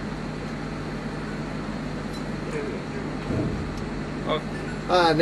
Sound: engine turns off

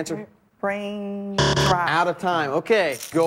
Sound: buzzer

